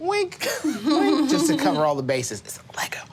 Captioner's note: laughing